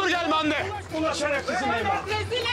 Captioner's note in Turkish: Bağrışma sesleri